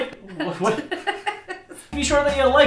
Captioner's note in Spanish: se ríe